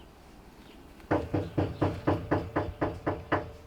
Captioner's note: knock on door